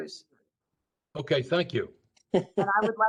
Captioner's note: laughter